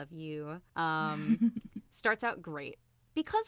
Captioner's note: giggles